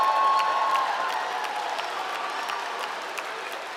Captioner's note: applause